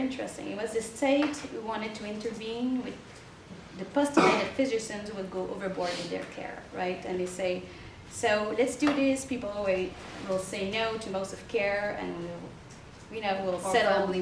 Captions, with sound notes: I thought it was very interesting. It was the state wanted to intervene with the (participant coughs) will go overboard with their care and they say let's to do this people. Wait, we'll say no to most of care and we'll settle--